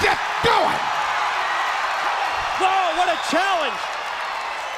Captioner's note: crowd cheering